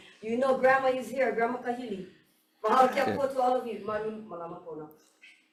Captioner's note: speaks foreign language